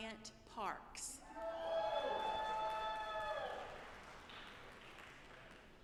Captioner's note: audience applauding